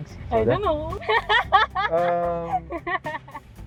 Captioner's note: laughs